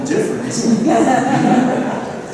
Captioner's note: laughter